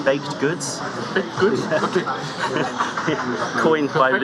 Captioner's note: laughter